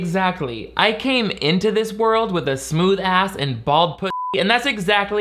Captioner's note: beep